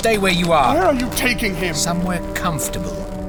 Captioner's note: pleading